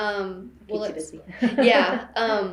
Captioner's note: laughs